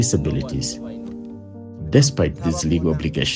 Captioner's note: people talking